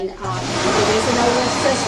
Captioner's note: mat inflating